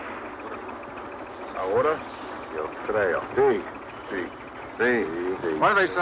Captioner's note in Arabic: عمال المناجم يتحدثون الإسبانية